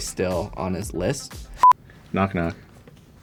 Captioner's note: beep